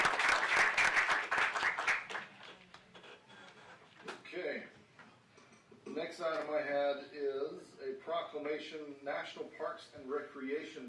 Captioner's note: applause